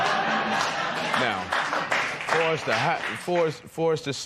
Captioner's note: applause